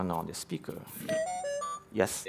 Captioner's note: beeping